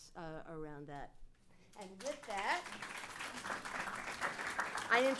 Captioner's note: applause